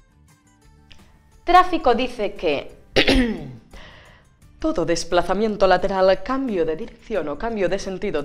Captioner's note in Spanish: carraspea